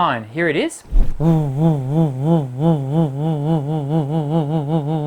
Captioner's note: pulsing humming